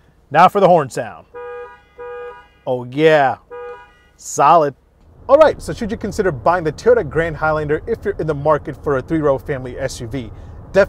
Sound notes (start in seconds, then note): 1.2 horn sounding